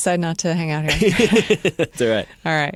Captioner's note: laughter